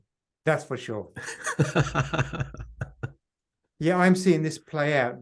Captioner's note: laughing